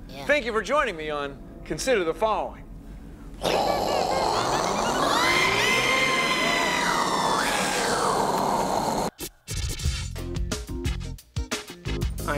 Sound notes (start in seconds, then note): 3.4 imitating rocket engine